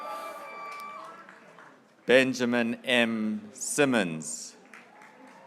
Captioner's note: graduates cheering